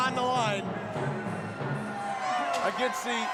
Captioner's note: crowd cheering